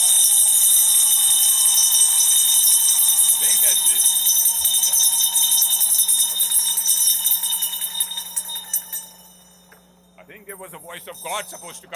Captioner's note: ringing bell